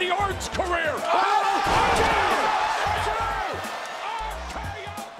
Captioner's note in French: exclamations, cris